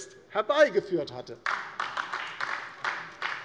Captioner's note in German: Beifall DIE LINKE